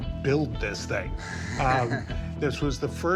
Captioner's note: chuckles